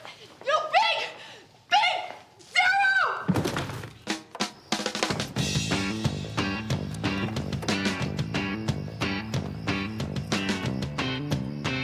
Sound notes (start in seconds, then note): 3.3 thud; 4.1 upbeat music